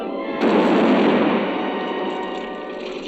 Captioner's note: explosion